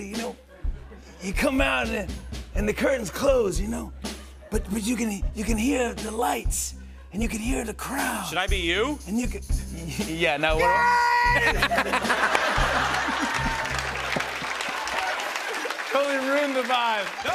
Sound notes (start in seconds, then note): 9.6 normal voice; 10.7 screaming; 11.3 laughter and applause